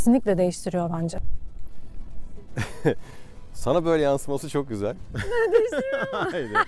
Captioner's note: laughs